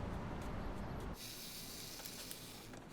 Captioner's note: camera timer whirring